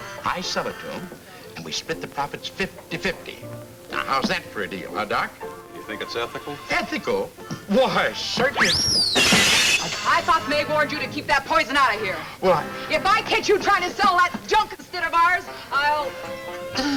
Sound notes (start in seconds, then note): 9.1 glass shatters; 16.0 speaker trails off